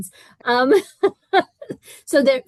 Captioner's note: laughter